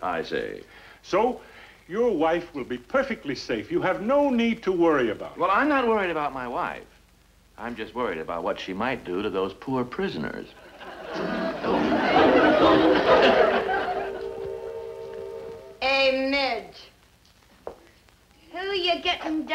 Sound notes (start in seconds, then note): 10.6 audience laughs; 10.7 choir harmonizes